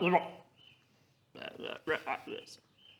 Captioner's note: guilty ribbits